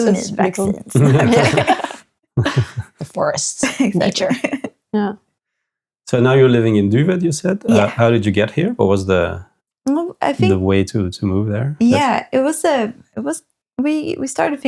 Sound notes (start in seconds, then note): 2.3 laughing